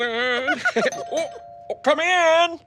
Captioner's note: doorbell